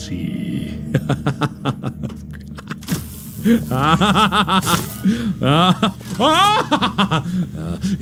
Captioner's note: maniacal laughter that turns into an ah HA as Mark progresses